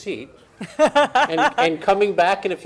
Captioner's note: laughs